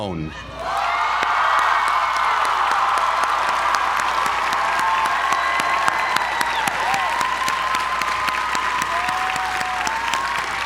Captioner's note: applause